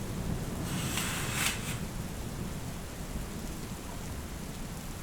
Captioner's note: drapes swishing